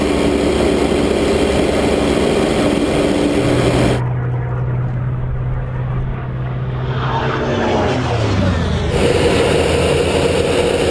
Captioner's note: engine roaring